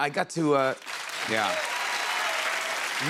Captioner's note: cheers and applause